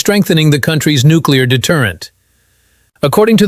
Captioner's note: exhales sharply